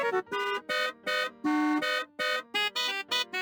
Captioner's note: 2 3/4 bars of honks, acc in first and go flatter; honking turn